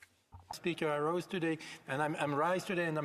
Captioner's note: speaking French